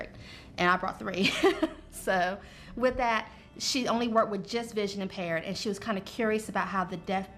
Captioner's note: laughter